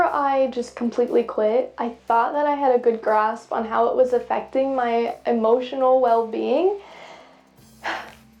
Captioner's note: sighs